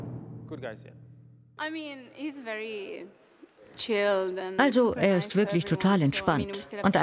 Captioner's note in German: englisch